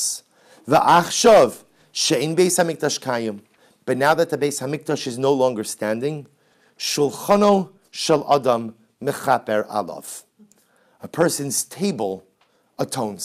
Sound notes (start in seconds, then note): 0.2 Hebrew